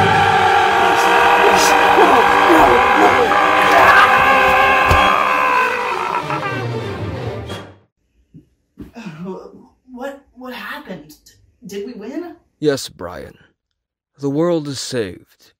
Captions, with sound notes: Please! Please! No! No! No! (YELPS) (TELEPA-BEAR CONTINUES SCREAMING) (GROANS) What-What happened? D-Did we win? Yes, Brian. The world is saved....